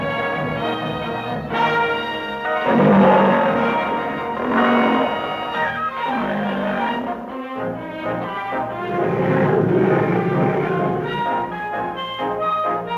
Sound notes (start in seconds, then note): 2.5 lion roaring